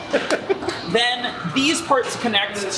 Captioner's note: laughter